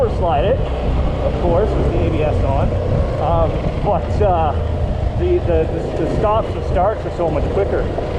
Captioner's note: stutters